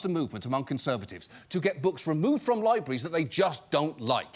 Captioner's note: none